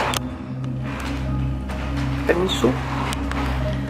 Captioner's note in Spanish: Piso rechinando